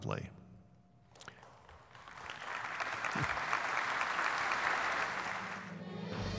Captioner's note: applause